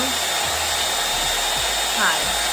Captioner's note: dryer whirring